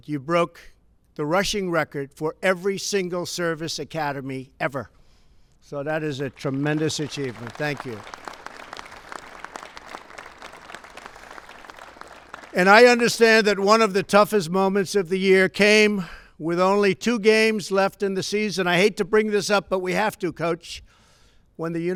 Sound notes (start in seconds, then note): 8.2 applause